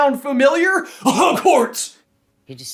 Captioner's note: cough cough